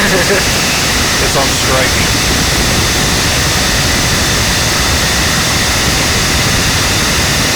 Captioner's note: laugh